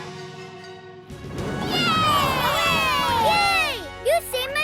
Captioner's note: cheering